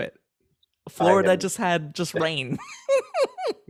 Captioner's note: both laughing